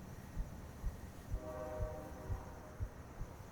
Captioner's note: train howls in distance